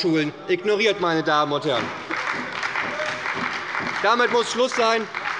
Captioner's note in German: Beifall bei der SPD - Zurufe von der CDU